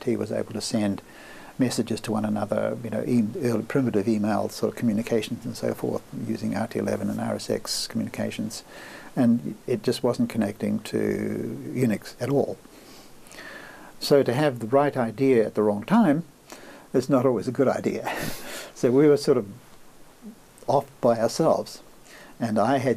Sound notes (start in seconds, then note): 18.2 laughs